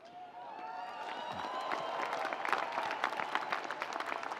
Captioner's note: audience applauds